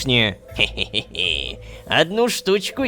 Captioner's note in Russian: Кхе-хе, хе-хе-е